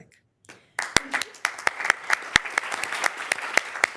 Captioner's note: members applauding